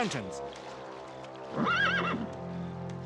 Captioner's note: neigh